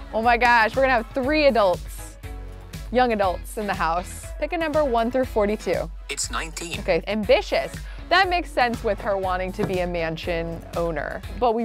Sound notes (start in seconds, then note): 6.1 voice On Phone